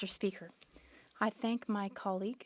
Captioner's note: speaking French